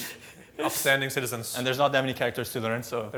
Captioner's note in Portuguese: risos